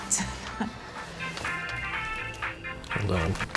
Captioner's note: dru scoffs; cell phone rings